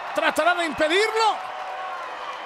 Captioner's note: applause